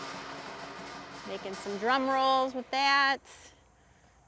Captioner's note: metal patters rhythmically